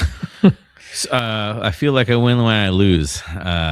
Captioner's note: uh; uh